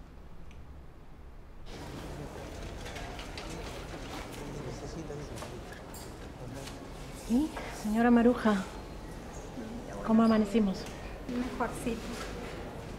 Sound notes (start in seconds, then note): 2.0 background chatter